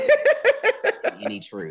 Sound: laughing

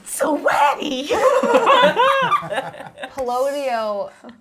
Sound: all laughing

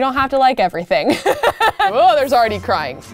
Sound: laughs

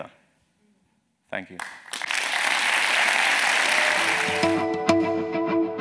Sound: applause

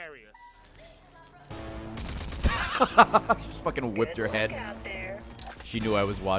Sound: laughs

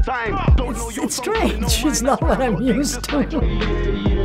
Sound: chuckles

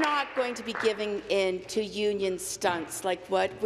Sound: applause

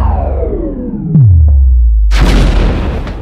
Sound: explosion

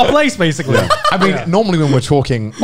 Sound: laughing

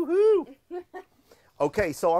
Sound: laughs

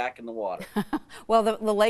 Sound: laughing

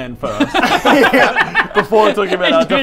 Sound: impulsive laughter

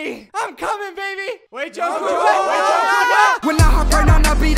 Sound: all clamoring

